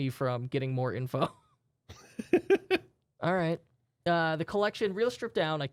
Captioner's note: both softly chuckling